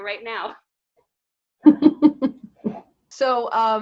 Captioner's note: laughing